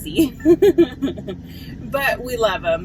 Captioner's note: laughs